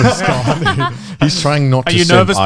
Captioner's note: laughs